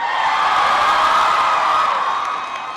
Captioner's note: applause